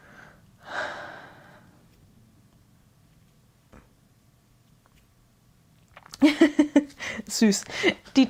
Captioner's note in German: seufzt